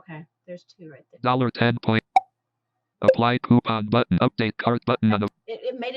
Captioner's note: beep sound